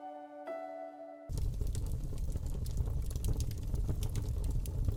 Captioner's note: fire crackling